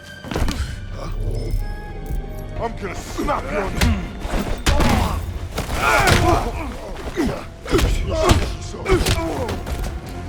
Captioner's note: groaning